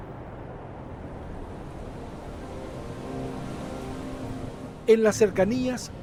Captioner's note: waves/wind noises, music begins